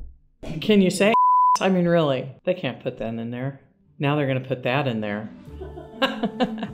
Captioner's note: laugh